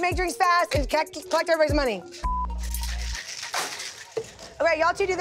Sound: ice clattering; beep

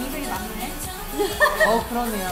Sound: ha ha ha

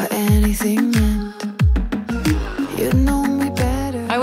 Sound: none

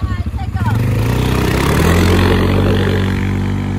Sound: engine revs

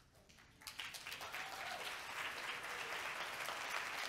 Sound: audience clapping

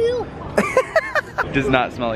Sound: laughing

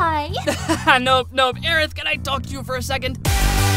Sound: forced Laugh

